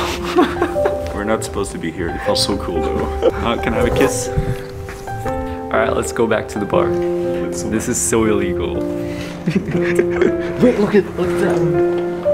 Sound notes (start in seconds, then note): 0.0 laughing; 9.2 chuckles